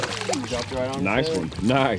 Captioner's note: fish splashing